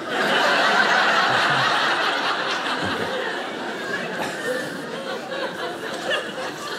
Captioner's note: audience laughing